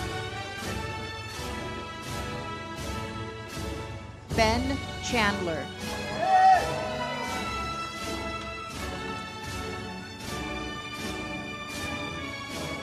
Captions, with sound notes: Ben Chandler. (audience applauds) (uplifting music)